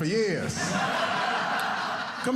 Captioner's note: audience laughing